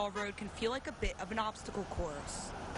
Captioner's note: sound of cars going